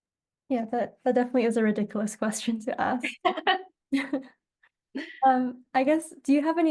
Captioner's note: laughs